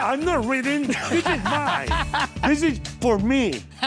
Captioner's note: laughing